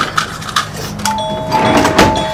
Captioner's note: doorbell ringing